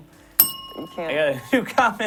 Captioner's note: bell rings